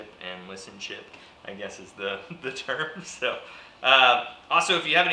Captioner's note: laughs